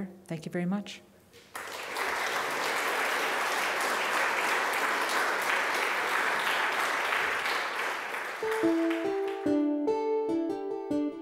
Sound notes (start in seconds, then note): 1.4 audience applauding